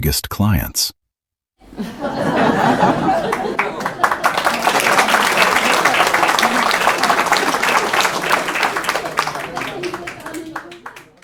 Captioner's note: applause and cheering